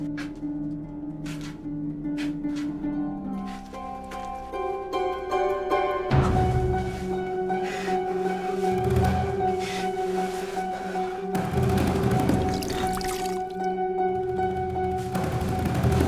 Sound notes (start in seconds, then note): 0.1 suspenseful music; 12.4 drink pouring